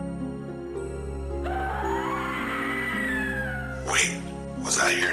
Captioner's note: sound of a tortured scream is heard